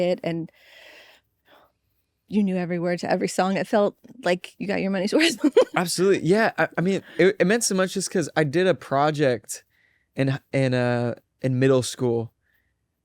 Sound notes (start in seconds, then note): 5.2 laughs